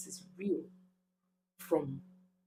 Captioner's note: paause